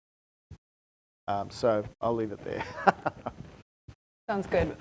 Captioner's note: chuckles